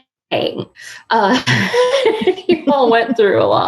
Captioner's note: laughing